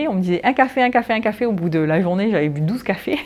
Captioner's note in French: rires